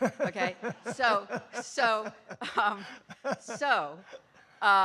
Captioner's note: laughing